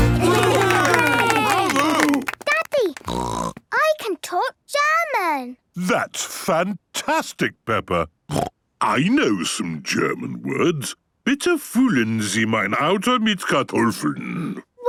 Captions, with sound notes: (cheering) - Daddy! (snorting) I can talk German! - That's fantastic, Peppa! (snorting) I know some German words. (speaking German)